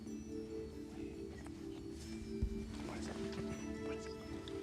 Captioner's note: whispering